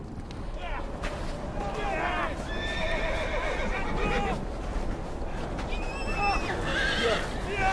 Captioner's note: men groaning